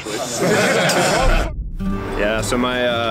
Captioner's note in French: Rires